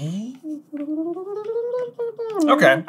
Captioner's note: throat humming circus tunes